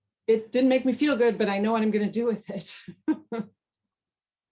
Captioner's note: laughs